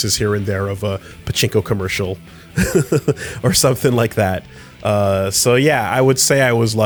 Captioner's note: laughs